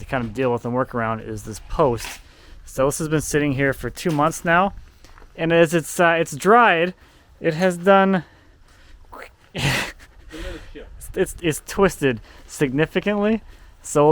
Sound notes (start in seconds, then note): 9.5 chuckling